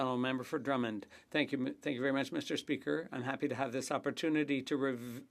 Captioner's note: speaking French